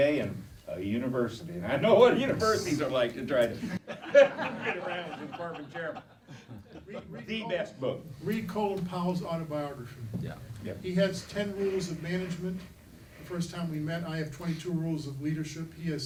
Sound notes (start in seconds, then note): 3.6 laughing